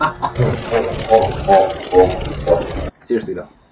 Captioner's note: even more evil laughter; evil laughter